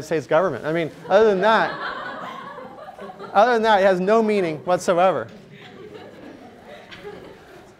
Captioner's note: laughter